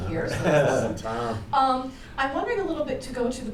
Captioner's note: laughter